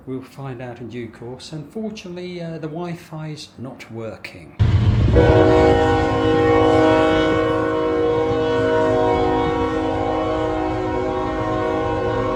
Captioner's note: train noise outside the room